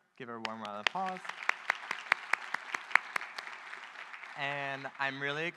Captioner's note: audience applauding